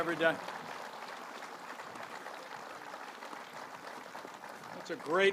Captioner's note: applause